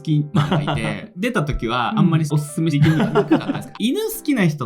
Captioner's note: laughs